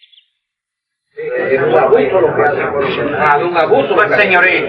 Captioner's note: spanish conversation